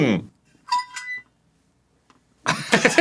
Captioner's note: creaky metal; both laughing